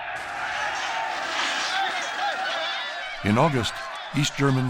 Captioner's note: all shouting